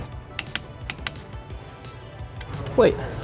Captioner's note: tool clicking